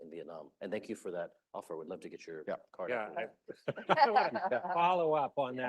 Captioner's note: laughter